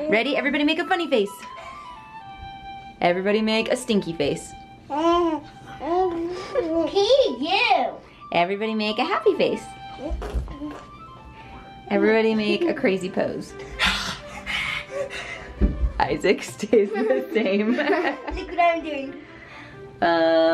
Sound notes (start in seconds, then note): 16.7 laughs